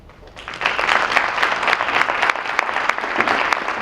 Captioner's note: applause